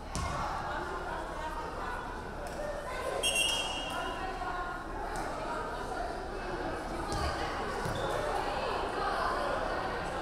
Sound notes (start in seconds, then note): 3.2 referee whistling; 4.5 crowd chattering